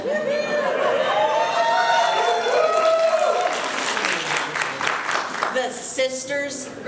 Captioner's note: applause